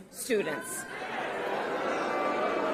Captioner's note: cheers